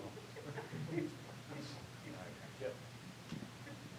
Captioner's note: laughter